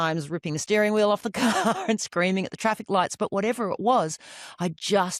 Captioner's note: laughs